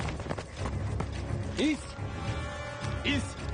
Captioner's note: speaking foreign language